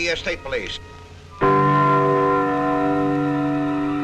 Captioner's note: clock chiming